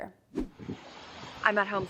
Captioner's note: air whooshing